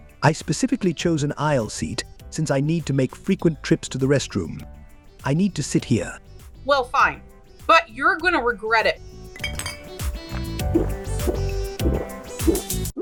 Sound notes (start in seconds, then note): 9.3 bottles clinking; 10.6 gulping